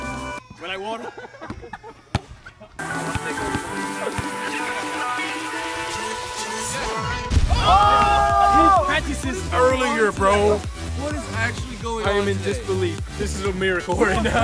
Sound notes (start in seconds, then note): 2.8 techno music; 7.4 cheers